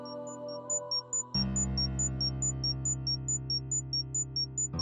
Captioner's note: beeping intensifies